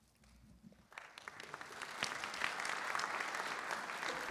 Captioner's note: applause